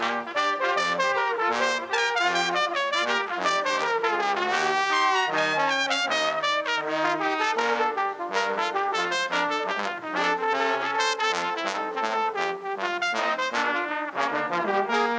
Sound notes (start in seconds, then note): none